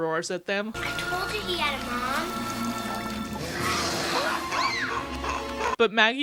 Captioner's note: roars. screams